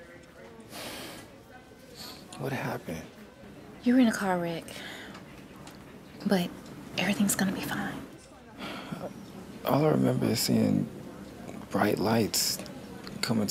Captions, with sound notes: (sighs) What happened? You were in a car wreck, but everything's gonna be fine. All I remember is seeing... bright lights